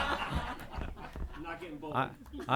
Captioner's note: laughter